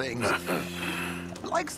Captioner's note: Arthur chuckles